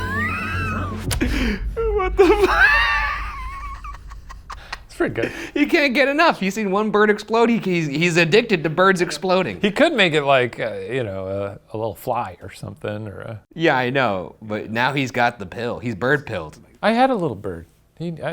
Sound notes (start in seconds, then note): 0.0 laughs